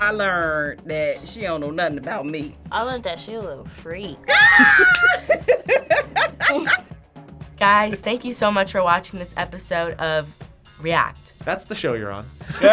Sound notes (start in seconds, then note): 4.2 screams and laughs; 12.5 all laugh